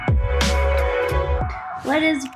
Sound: keyboard clicking

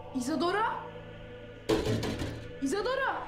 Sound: Kapıya vurma sesi

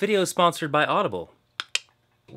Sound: winks and clicks tongue

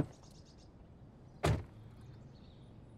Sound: door closes

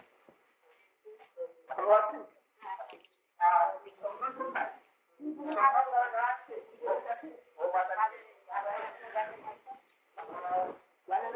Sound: Hindi

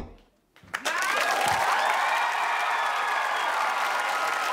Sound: audience clapping

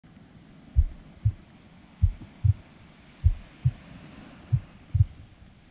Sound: rhythmic pulsing resembling a heartbeat; gentle waves lapping

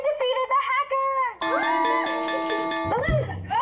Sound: bell dings

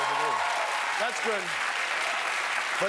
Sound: cheers and applause

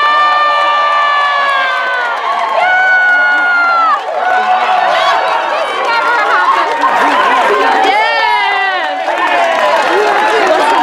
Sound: cheers

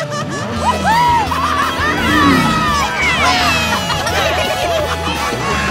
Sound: cheering

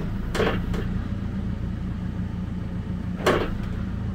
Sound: log creaking

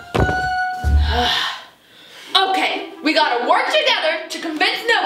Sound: glass squeaks; sighs

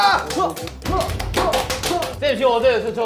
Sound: hitting his clay

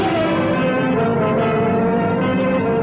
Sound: none

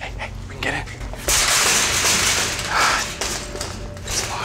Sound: cage rattling

